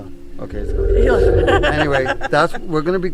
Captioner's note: chuckling